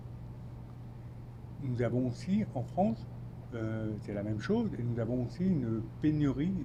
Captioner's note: speaking French